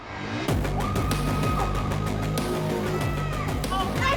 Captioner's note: air whooshing; dramatic music; scream